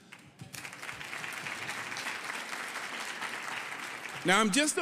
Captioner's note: audience applauding